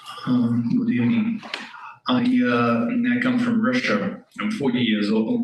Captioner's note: audio blurs